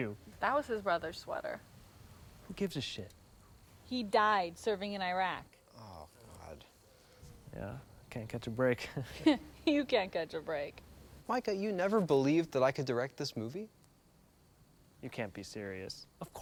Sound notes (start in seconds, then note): 8.8 chuckles; 9.6 scoffs